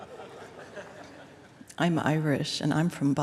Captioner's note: laughter